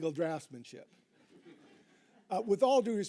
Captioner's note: audience chuckling